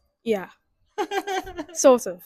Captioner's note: laughs